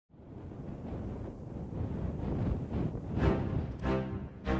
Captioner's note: wind blowing